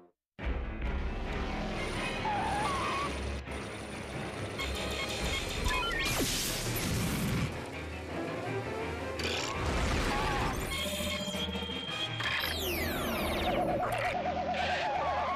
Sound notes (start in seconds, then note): 1.7 tires screeching